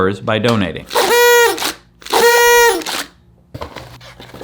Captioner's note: party horns blowing; paper shuffling